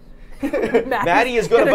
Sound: both laughing

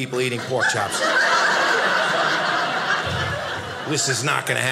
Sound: audience laughing

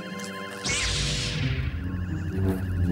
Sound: zap!

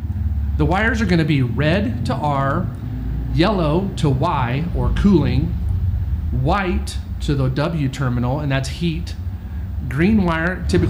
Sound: blower motor

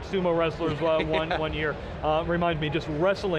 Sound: laughter

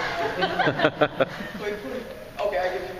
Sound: laughing

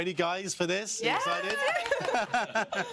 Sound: laughter

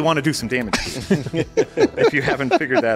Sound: laughing

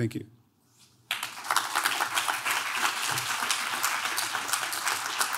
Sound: audience clapping

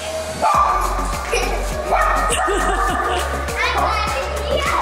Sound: giggles and laughs

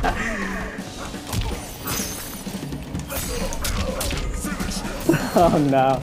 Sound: laughs; video game characters grunting

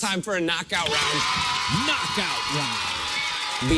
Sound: cheers and applause

